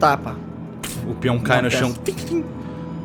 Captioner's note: pff